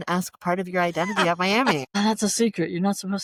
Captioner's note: laughter